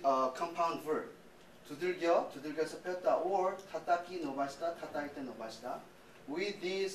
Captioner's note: non-english speech